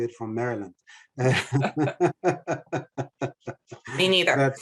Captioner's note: panelists laughing